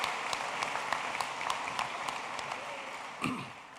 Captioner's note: applause